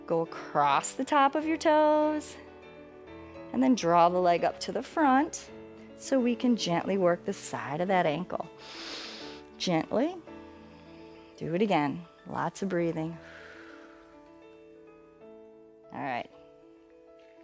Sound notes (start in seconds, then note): 8.6 inhales; 13.2 exhales